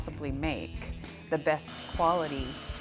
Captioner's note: machine whirring